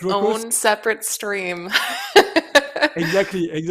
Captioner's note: laughs